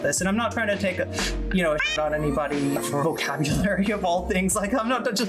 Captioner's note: meow